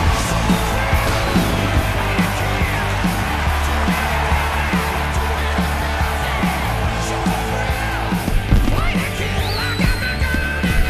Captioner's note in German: Beifall